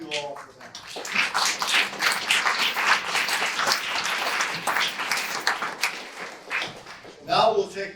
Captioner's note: audience applause